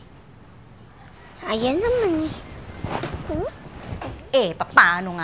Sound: whining

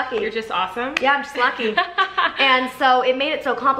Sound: laughs

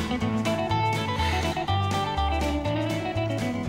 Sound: sighs

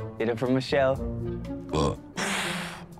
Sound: belches

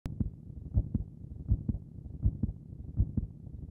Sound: heart beats

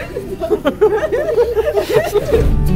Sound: laughing

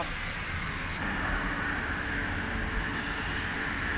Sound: traffic sounds

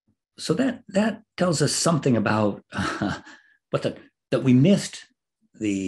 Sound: laugh

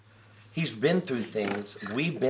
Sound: laughs

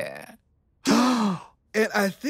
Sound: gasps

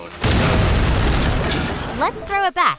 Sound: exploding

